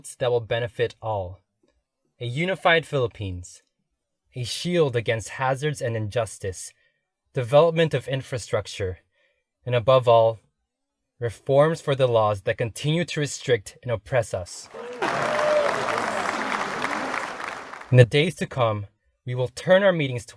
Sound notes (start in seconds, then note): 14.6 crowd clapping and cheering louder